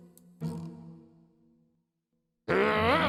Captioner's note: growls